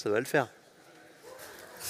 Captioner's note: indisctinct chatter